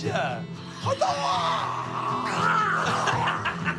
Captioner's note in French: cris de karaté; en riant